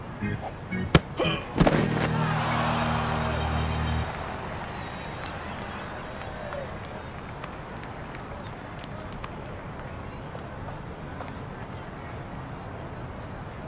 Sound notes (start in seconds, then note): 1.5 ball thuds; 1.5 player thuds